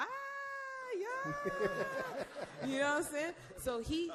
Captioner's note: all laugh